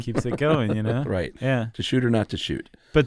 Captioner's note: laughs